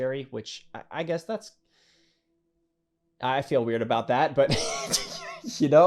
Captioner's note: laughing